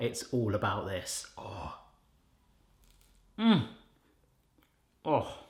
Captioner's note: sighing happily